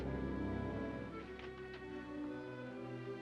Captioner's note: ominous music; door opens; ominous music